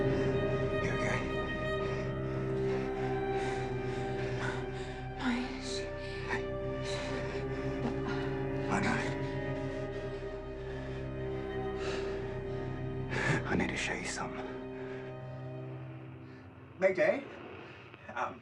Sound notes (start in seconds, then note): 1.6 all panting; 1.6 eerie music; 9.4 eerie music; 16.8 radio static crackling